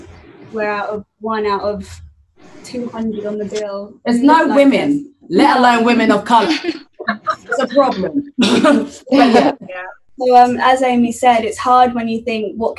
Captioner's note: laughter